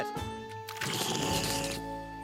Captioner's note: slurping sounds